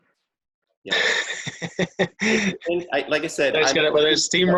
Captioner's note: both chuckling